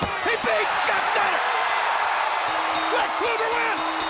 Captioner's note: crowd cheering; bell rings